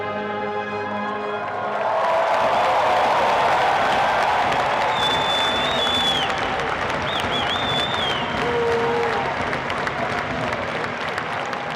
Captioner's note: cheering and applause